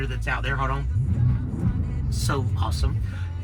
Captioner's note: motor revs